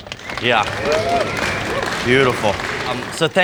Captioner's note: group applauding